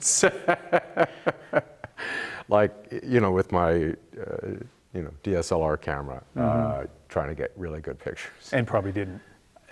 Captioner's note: laughter